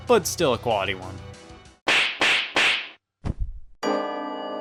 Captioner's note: sharp smacks; dramatic music